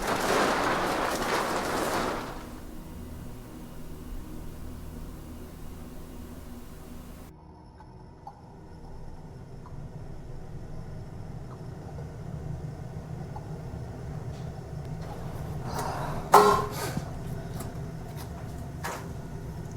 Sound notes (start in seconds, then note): 0.0 plastic tarp rustles; 8.0 water drips